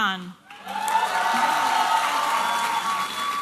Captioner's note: applause and cheering